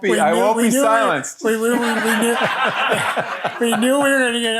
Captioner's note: audience laughing